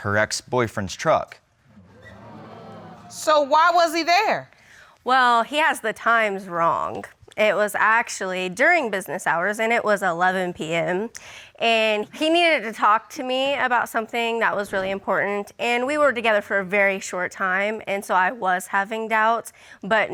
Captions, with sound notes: and her ex-boyfriend's truck. [audience exclaiming] So, why was he there? Well, he has the times wrong. It was actually during business hours and it was 11:00 p.m. And he needed to talk to me about something that was really important. And we were together for a very short time, and so, I was having doubts.